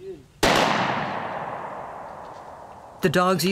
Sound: gunshot

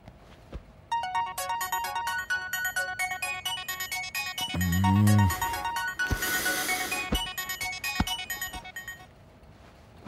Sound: phone Ringing

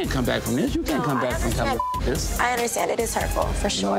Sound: beep

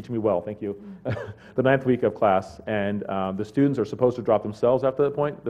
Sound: laugh

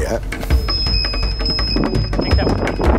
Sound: squeal

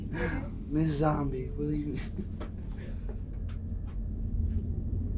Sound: laughs

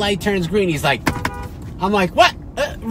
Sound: beeps horn

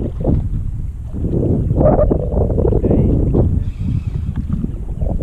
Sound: wind blowing loudly

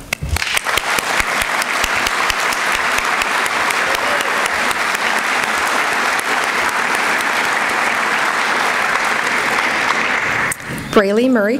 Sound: applause

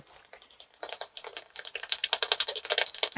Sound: sound of echolocation clicks from a bat detector

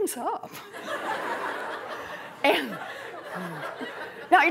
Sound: laughter

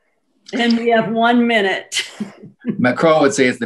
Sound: laughs

